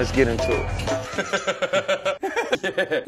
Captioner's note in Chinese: 超級無敵長笑聲連發